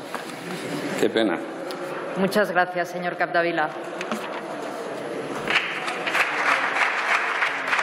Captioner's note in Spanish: Aplausos